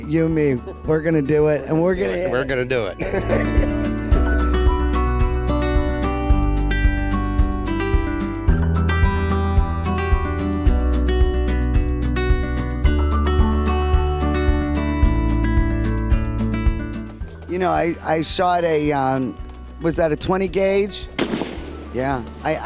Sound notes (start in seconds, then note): 0.4 laughs; 3.6 upbeat music